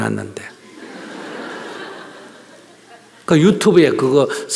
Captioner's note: audience Laughter